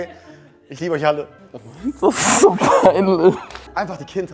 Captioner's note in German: lacht